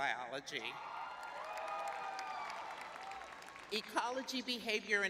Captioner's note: cheering; clapping